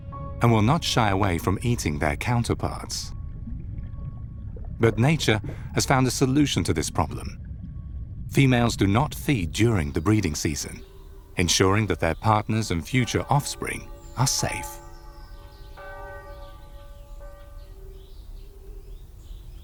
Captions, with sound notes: and will not shy away from eating their counterparts. But nature has found a solution to this problem. Females do not feed during the breeding season, ensuring that their partners and future offspring are safe. (bell ringing)